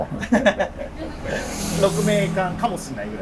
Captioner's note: laughing